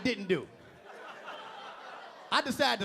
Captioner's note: audience laughing